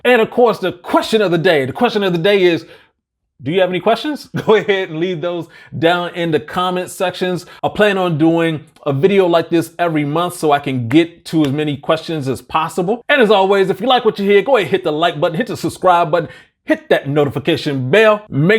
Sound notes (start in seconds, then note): 4.2 laughs